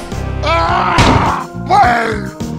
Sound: yells angrily

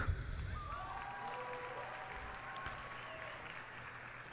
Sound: cheers and applause

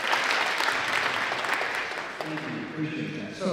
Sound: applause

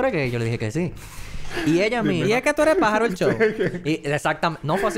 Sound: laugh; laughs

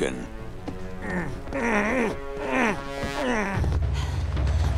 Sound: grunting

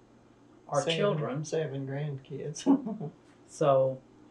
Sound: laughs

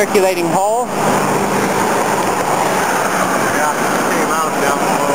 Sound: water rushing loudly

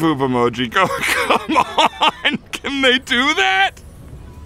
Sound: more laughing

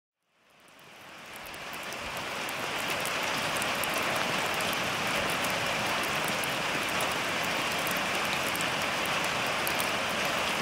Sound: heavy rain on tin roof

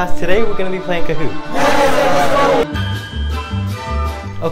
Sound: cheering

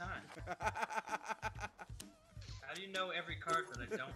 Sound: laugh

